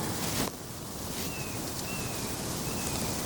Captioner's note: bird singing